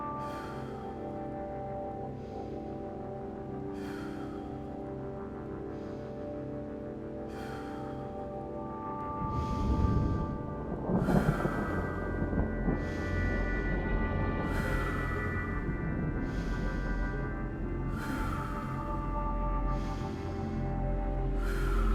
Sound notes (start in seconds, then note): 9.2 thunder rumbles; 12.4 breathes deeply